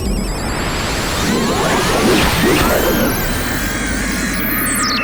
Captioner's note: gasps; shrieking